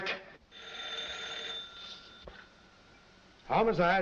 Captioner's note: phone rings